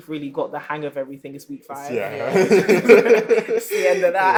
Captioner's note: laughter